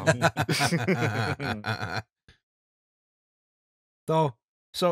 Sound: laughter

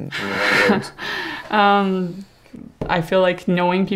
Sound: laughs

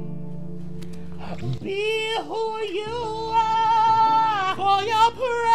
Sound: lips smacking

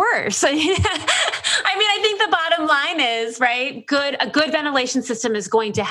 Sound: laughs

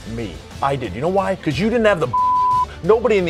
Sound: beep

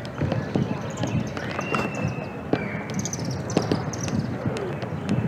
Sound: whistle blowing

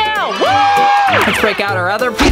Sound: cheering

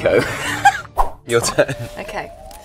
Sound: logo whooshing; Jessie laughs

